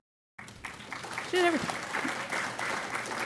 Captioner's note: applause